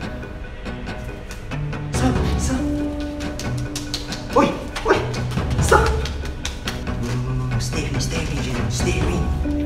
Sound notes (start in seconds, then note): 2.0 slap slap slap slap slap; 2.5 more slapping